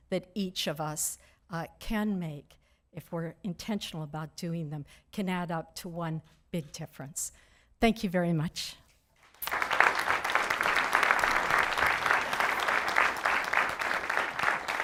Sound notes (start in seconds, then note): 9.2 audience clapping